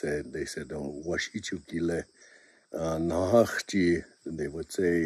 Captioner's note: native Lakota Language